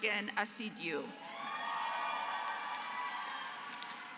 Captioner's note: applause